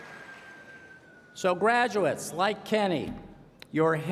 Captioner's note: cheers and applause